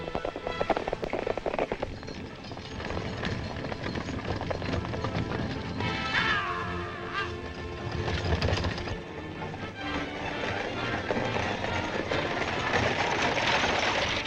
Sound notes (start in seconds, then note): 0.2 horses galloping; 6.3 guards shouting; 6.3 horses galloping